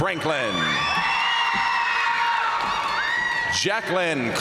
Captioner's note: crowd cheering; crowd applauding